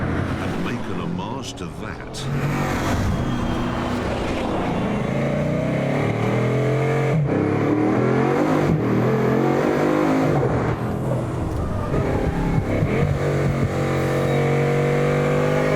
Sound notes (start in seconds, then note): 4.5 engine roaring; 11.8 tyres squealing